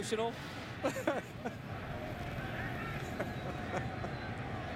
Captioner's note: laughter